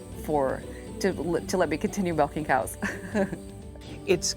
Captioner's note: chuckles